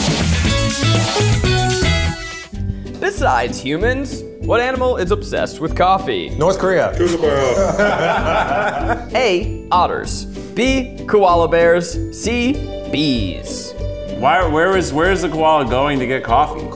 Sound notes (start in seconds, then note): 0.2 bright guitar transition; 7.1 laughs